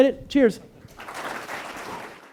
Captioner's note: clapping